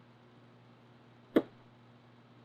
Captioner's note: pops lips